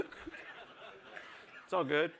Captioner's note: laughter